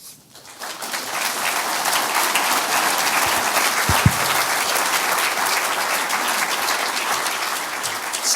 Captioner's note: audience applause